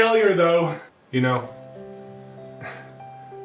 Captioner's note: sighs